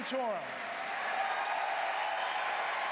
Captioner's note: applause